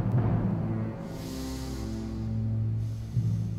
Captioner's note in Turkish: Nefes sesi